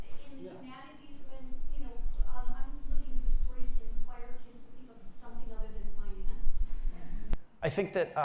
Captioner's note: voiceover